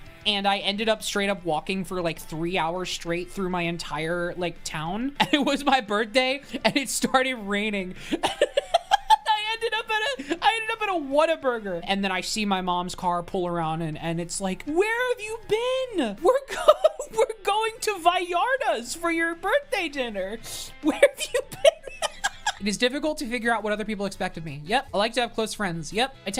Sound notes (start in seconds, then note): 8.0 laughs; 20.8 laughs